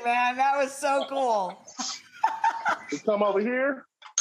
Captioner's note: laughing